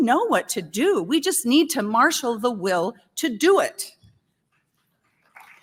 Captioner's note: applause